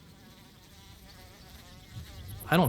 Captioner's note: insect chirping